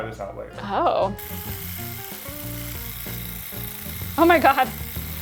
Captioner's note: device clicking